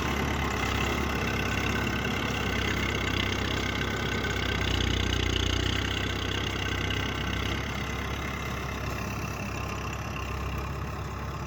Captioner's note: tractor motor running